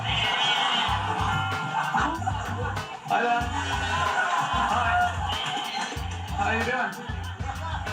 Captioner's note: laughter